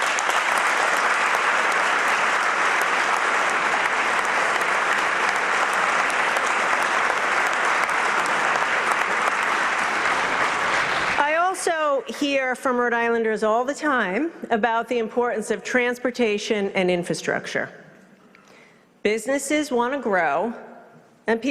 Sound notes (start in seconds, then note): 6.8 applause